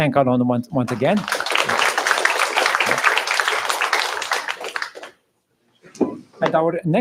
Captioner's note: applause